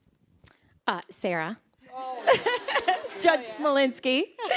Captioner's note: all laughing